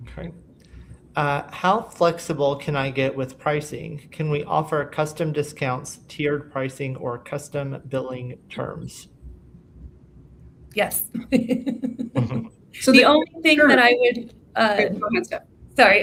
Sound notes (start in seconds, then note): 11.2 laughs